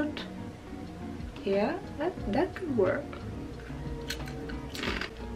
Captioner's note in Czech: sní čips